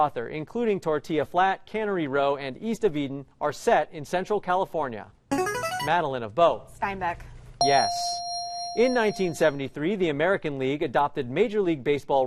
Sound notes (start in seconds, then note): 5.4 chiming